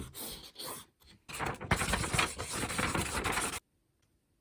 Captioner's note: furious scribbling